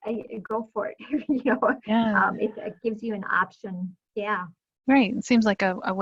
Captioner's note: chuckling